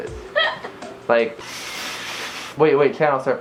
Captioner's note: TV static noises; laughs